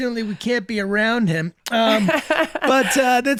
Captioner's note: laughing